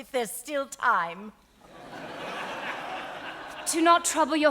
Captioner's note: audience laughing